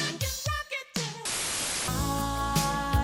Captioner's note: static hissing